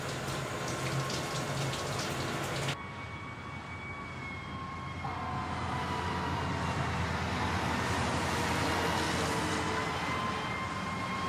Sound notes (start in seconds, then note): 2.7 sirens